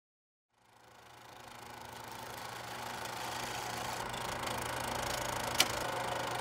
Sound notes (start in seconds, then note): 0.5 film reel whirring